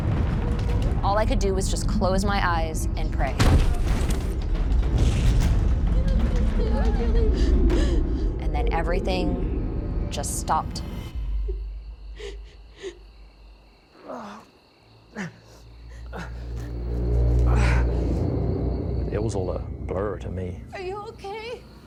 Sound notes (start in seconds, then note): 3.3 pounding; 5.9 sobbing; 10.4 crying; 13.3 groaning